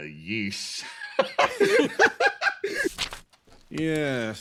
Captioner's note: laugh